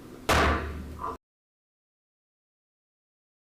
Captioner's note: gavel slamming